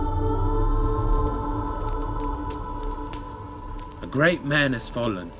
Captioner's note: gentle music; fire crackling